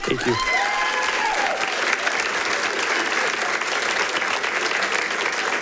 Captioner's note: audience applauding